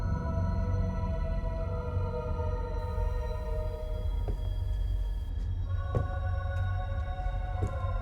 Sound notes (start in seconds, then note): 3.6 light tapping